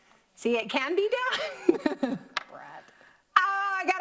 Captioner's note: laughs